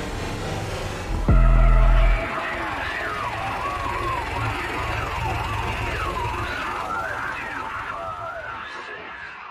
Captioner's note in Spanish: Interferencia estática de radio